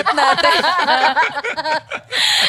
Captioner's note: laughs